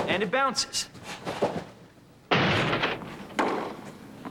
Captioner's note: loud thud